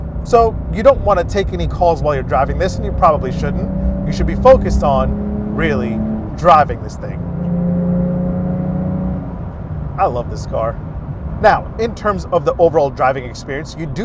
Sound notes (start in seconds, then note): 7.5 car engine revving